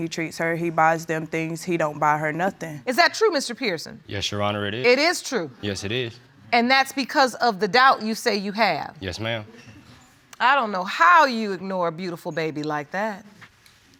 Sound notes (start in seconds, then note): none